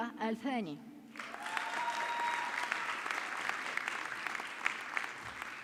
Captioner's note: audience clapping